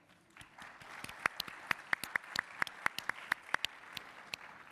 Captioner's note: audience applauding